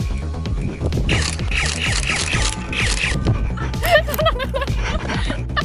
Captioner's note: Nerf blasters firing